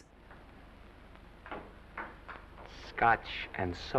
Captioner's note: pinball clattering in distance